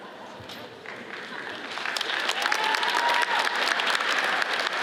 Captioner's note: audience applauds